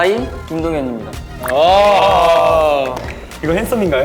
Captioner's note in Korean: 환호해주는 멤버들